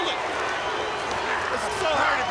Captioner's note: crowd cheering